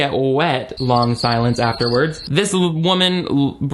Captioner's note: crickets chirping